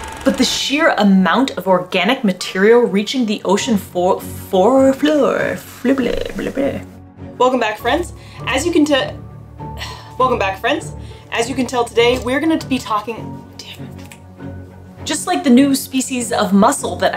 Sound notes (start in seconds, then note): 9.6 sighs; 14.0 clicks fingers; 14.3 background music